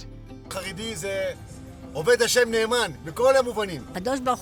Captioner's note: interviewee 1 speaking in foreign language; interviewee 2 speaking in foreign language